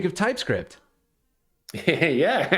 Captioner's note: laughter